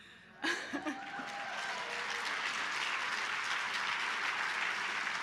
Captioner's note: cheering and applause